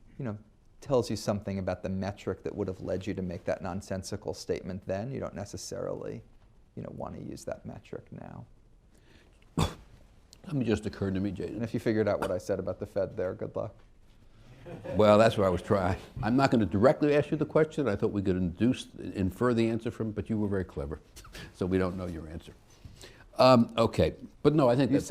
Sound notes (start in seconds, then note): 14.5 laughter